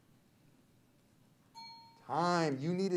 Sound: bell rings

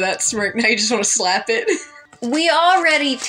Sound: laugh

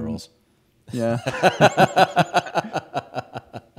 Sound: laughs

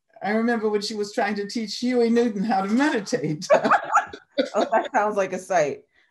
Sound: laughing

